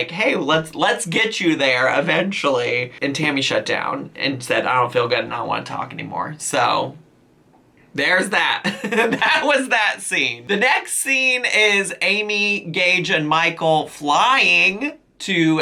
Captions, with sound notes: "Hey, let's get you there eventually." And Tammy shut down and said, "I don't feel good. I don't want to talk anymore." So, there's that. (laughs) That was that scene. The next scene is Amy, Gage, and Michael flying to Atlanta